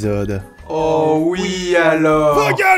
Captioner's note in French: En cœur